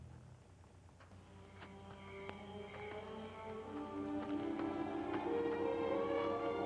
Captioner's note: soft brooding music; insects chirping